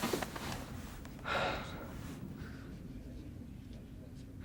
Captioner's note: Adam sighing